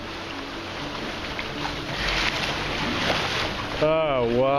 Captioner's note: waves splashing